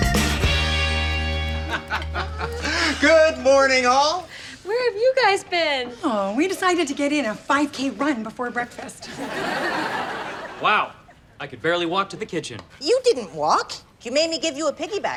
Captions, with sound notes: Good morning all. - Where have you guys been? - Oh we decided to get in a 5K run before breakfast. (laughs) - Wow, I could barely walk to the kitchen. - You didn't walk, you made me give you a piggy back ride.